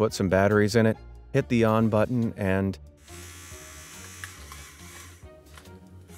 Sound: object buzzing

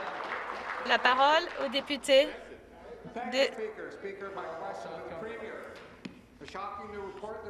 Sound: some Applause

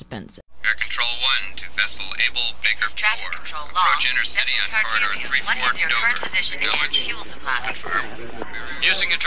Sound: radio chatter

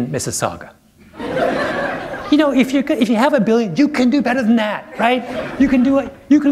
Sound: laughter

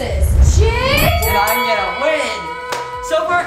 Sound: bell ringing

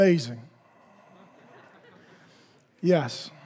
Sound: congregation laughing

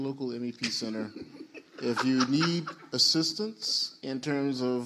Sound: panelists laugh

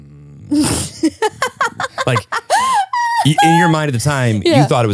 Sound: laughing

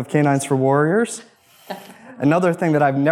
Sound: woman laughs

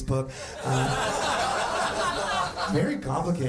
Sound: audience laughing

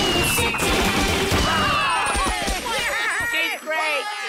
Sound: cheering

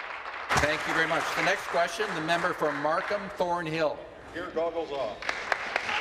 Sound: applause

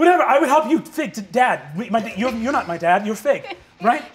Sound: stuttering

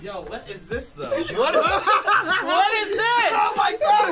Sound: all laugh

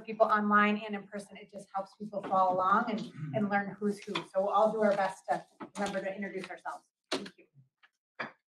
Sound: paper shuffling

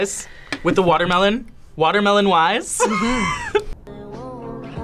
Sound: laughs

